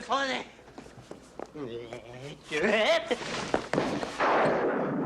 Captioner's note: gagging